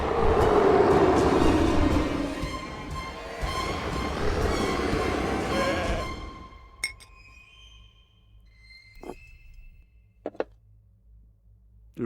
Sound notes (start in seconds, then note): 6.8 glasses clink